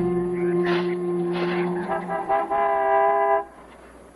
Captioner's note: horn honks